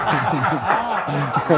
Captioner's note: men laugh